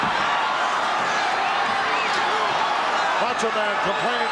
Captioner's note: audience cheering